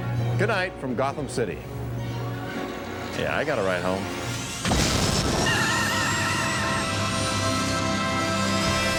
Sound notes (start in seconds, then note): 5.3 tires screech